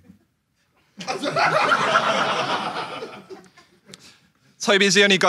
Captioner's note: audience laughs